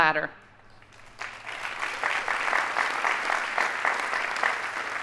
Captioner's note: audience applauding